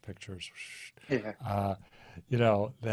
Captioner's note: chuckles